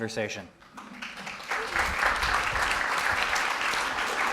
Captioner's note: audience applauding